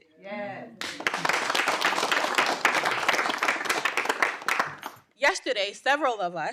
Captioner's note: audience applauding